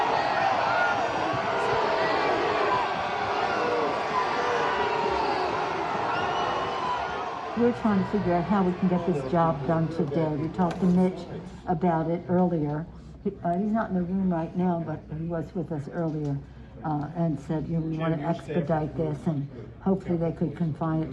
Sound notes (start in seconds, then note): 7.8 sounds of the crowd